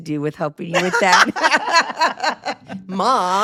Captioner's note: laughing